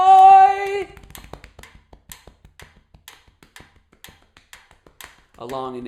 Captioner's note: tapping and ticking sound